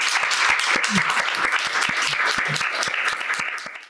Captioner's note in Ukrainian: оплески